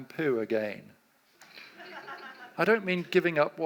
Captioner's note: audience laughs